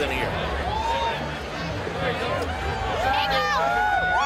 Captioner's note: crowd cheering